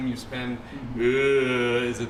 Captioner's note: mimicking sitar